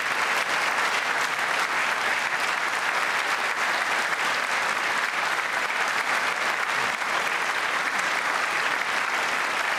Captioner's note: applause